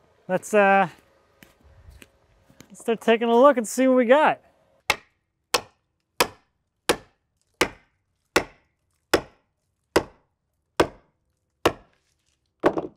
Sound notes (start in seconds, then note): 4.9 hammer clacking